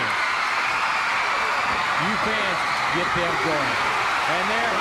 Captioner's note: crowd cheering